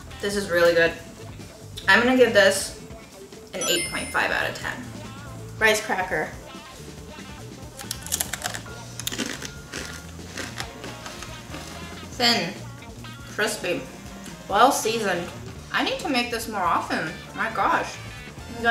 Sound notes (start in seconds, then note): 8.9 crunching